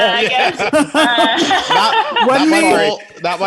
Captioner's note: all laughing